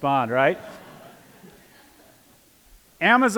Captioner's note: laughter